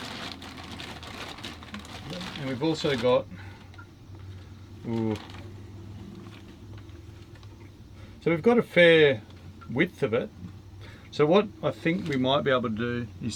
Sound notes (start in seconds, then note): none